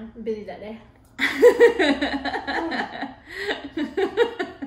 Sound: laughing

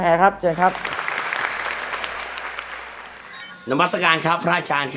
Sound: clapping

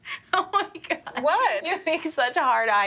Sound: laughing

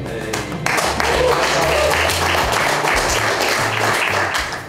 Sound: crowd clapping and cheering

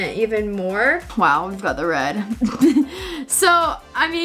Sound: laughs

